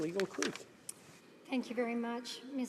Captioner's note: speaking French